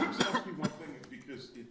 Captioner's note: Justice coughs